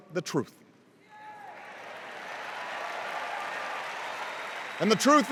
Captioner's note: cheers and applause